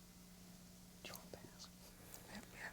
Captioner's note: whispering